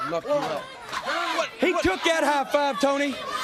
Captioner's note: crowd cheering